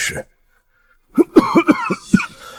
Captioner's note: cough, cough, cough